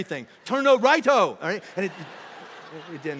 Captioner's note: congregation laughing